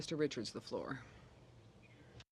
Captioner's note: speaking French